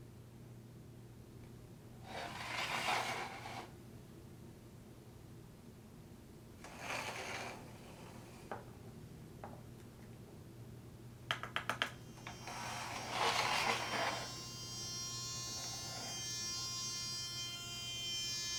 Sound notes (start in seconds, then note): 12.0 shaver buzzing